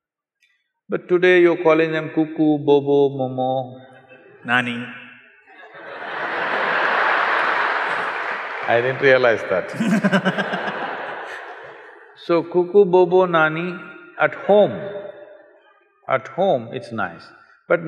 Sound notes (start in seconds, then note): 4.7 laughter; 9.7 Nani Laughs